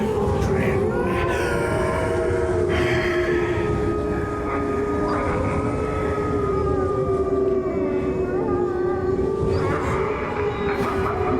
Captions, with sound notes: (eerie music) - My children. (wolves howl)